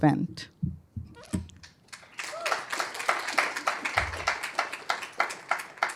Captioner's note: applause